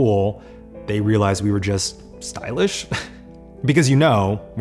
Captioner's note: laughs